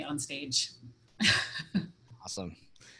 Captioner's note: laughs